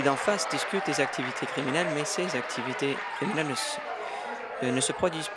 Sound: applause

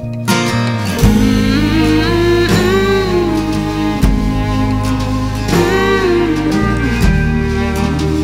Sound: humming "Mmm Mhmm"

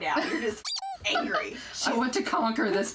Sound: squeaking

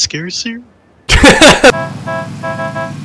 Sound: distorted laugh

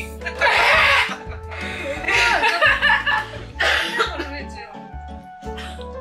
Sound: laughing but wants to cry

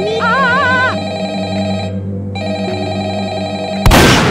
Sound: phone rings continues

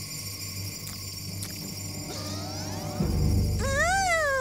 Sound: smacks lips

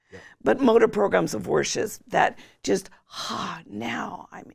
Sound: sighs

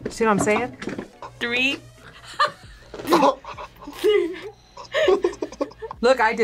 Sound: both laugh

